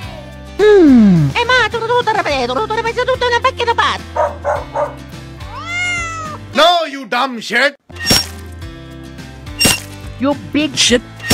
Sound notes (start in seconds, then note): 4.1 barking; 5.4 meow